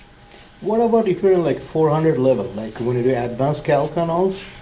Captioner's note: voiceover